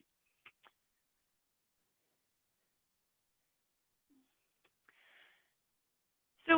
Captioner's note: silence